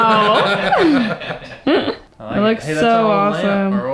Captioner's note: all laughing